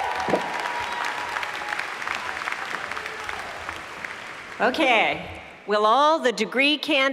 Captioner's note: applause